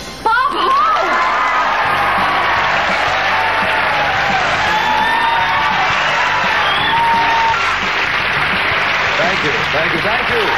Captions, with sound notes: Bob Hope! (audience applauding) Thank you, thank you, thank you.